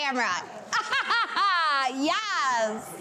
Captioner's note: laughing